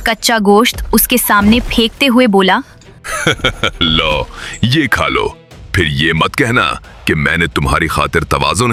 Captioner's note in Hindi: हंसी